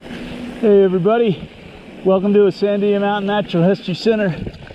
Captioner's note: wind noise